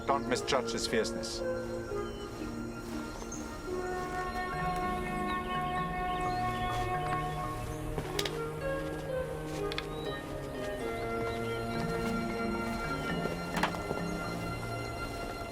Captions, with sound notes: but don't misjudge his fierceness. (hands clasping) (footsteps) (hands clasping)